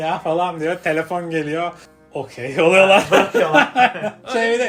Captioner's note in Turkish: kahkaha